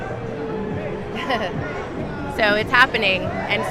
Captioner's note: chuckles